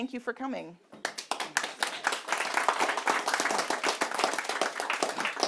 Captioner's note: audience applauding